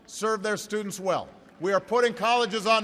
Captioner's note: applause